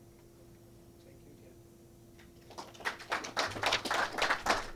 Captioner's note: clapping